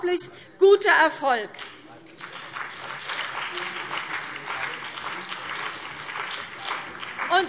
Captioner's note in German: Beifall CDU und BÜNDNIS 90/DIE GRÜNEN